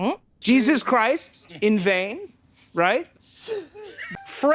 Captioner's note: chuckles